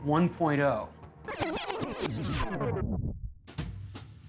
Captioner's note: tape rewinding